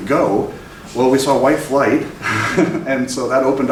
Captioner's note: laughs